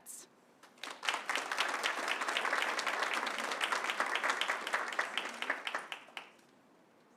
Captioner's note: applause